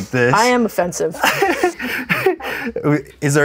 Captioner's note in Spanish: ambos ríen